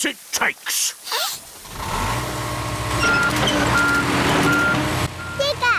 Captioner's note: sniffs; engine roars